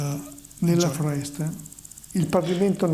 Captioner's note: speaking italian